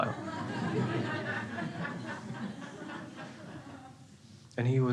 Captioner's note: crowd laughing